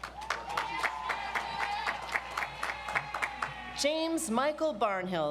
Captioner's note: audience applauds